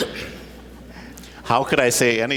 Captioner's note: laughter